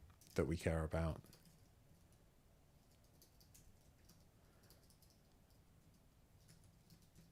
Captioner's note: silence